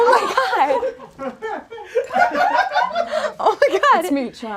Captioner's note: audience laughs